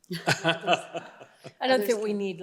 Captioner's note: laughter